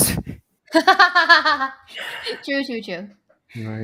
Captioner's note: laughs